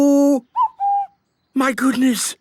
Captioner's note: distant cuckoo